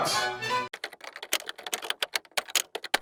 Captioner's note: typing